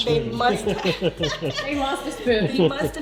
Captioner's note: laughs